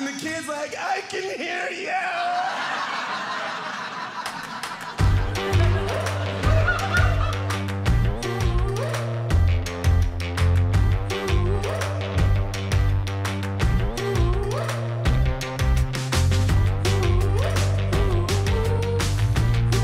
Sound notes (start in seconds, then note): 2.0 laughter